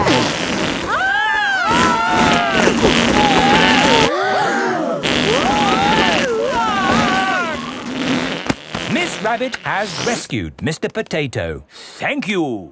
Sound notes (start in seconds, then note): 0.8 both screaming; 4.6 crowd gasps; 6.3 screaming